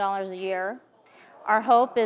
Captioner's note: audience groans